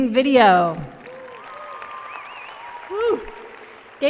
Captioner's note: applause and cheering